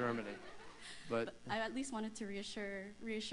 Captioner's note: laughter